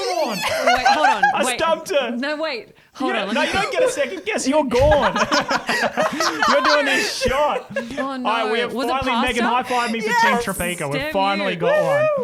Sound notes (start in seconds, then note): 6.4 laughter